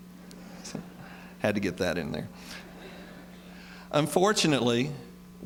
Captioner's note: laughter